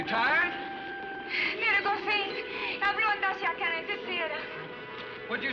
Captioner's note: speaking swedish